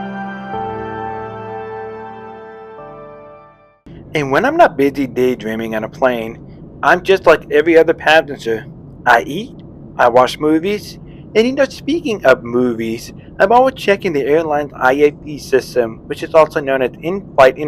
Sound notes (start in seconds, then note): 3.9 voiceover